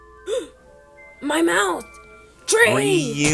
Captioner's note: gasp